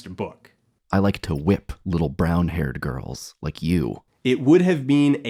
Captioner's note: reading aloud from the novel